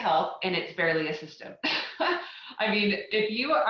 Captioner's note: chuckling